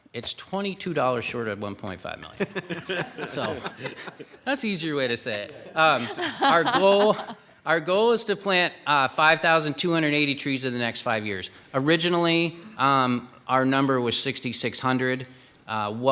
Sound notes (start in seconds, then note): 2.3 people giggling